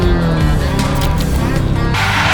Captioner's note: milkshake splattering